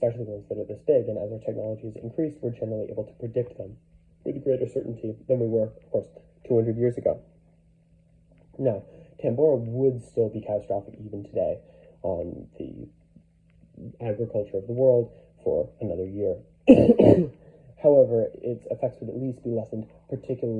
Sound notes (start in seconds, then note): 16.6 COUGHCOUGH, effects of a cold